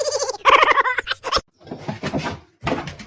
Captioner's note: laughs